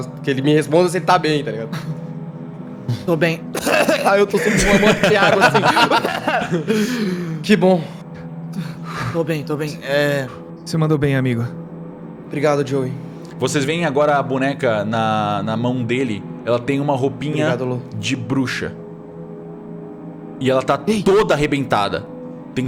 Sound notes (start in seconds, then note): 3.5 cough cough; 6.3 intense coughing